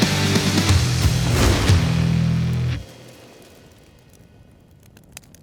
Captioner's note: fire crackling